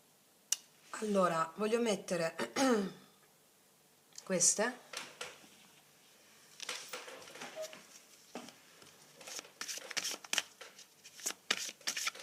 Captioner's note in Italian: schiarire la voce